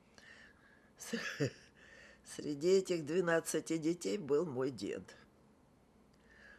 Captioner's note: laughing